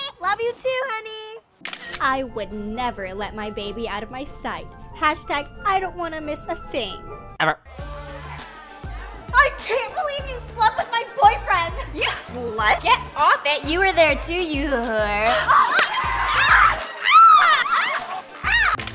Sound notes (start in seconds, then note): 1.6 camera shutter snaps; 7.8 dance music; 15.1 gasping; 15.4 shrieking